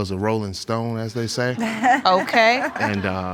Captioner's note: audience laughing